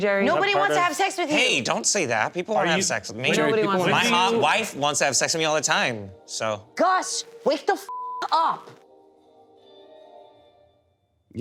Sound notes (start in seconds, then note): 7.9 beep; 8.6 light music